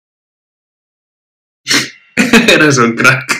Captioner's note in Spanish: ríe